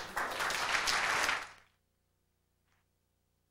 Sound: applause

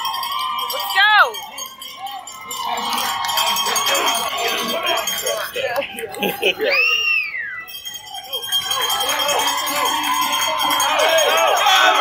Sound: bell ringing, crowd cheering, PA Announcer speaking unintelligibly

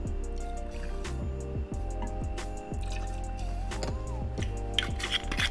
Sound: pouring

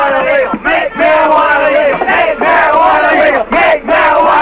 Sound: crowd chanting

